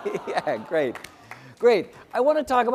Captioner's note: applause